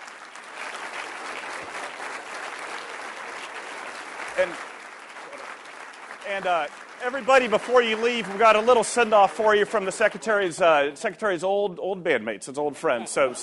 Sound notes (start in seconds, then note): 3.9 applause